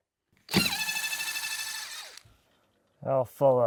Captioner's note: drill running